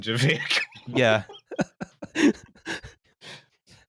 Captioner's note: laughs